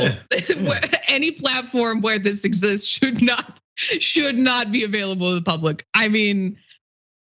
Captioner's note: laugh